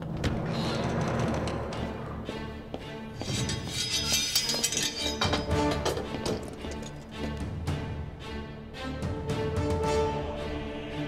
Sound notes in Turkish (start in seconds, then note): 3.2 Kılıç çekme sesleri; 8.5 Müzik - Aksiyon